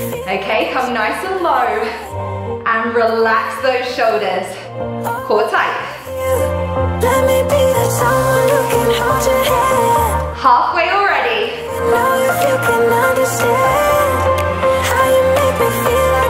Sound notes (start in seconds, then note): none